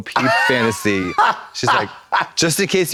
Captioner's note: Trixie whoops